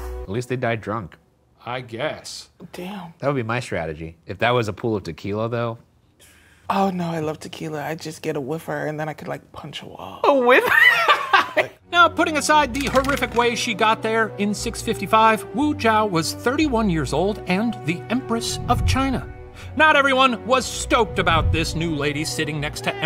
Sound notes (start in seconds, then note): 10.6 laughs